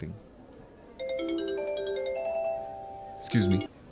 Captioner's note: mobile ringtone